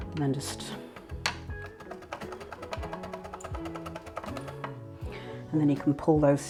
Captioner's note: rapid chopping thunk